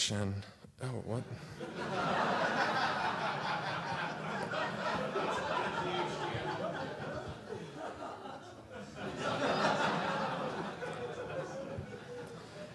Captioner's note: laughter